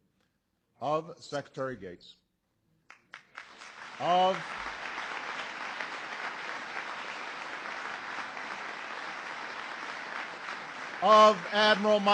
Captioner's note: applause